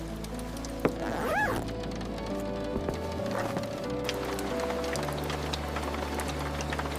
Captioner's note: boots set down on the entry mat